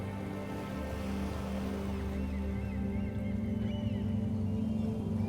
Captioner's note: water lapping, birds squawking